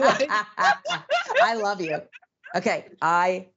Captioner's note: laugh